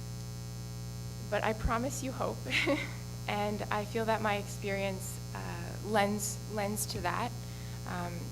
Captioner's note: laughs